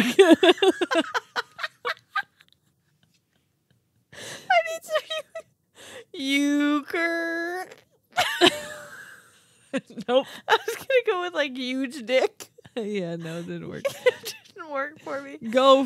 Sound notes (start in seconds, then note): 0.0 laughing; 8.2 laughing